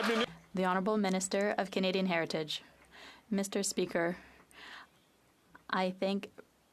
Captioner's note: some Applause